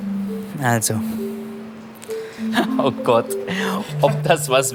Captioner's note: laughs